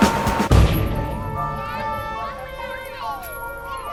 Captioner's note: sounds of kids at a playground